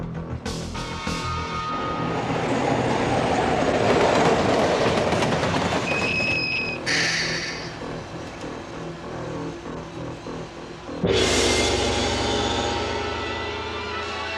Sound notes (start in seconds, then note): 0.0 somber music; 2.9 train rumbling; 6.3 train brakes squeaking; 9.6 somber music; 11.0 gong resounds